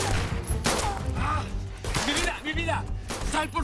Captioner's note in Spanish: Disparos